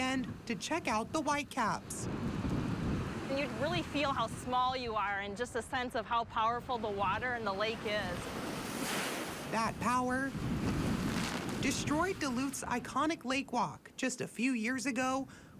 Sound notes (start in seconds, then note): 3.0 nat waves; 4.7 nat waves